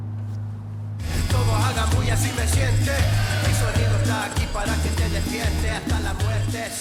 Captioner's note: upbeat music; cell phone vibrating